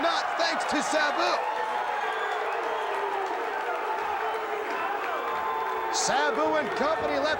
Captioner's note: crowd cheering